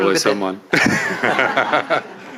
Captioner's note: all laugh